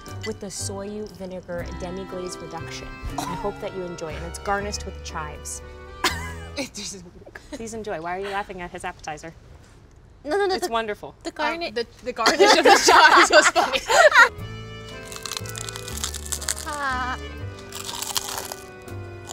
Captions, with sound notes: with a soju, vinegar, demi-glaze reduction. I hope that you enjoy it and it's garnished with chives. - It doesn't look- - Please enjoy. Why are you laughing at his appetizer? - No, no, no- - It's wonderful. - The garnish- - The garnish of the chives was funny. (romantic peaceful music) (crunching)